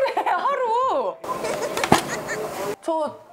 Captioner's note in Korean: 웃음